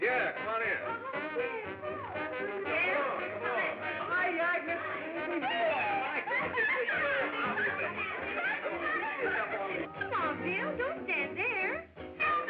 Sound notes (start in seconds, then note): 6.4 laughing